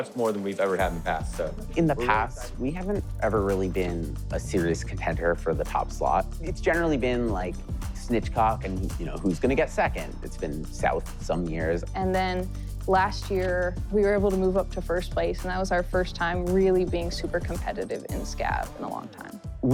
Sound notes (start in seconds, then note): none